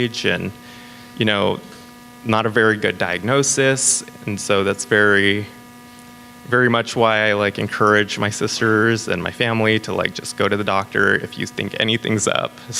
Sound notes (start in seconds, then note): none